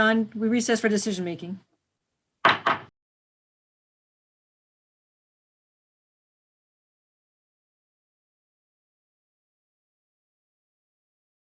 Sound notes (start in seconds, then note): 2.4 gavel bangs; 9.2 silence